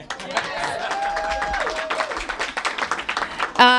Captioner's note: applause